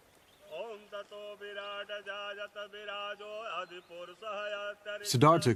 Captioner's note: chanting in foreign language